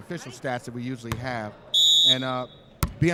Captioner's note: referee whistling